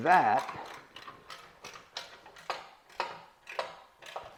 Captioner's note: ratchet clicking